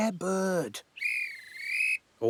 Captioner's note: whistle chirps